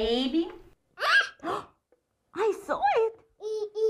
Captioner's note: shrieks; gasps with surprise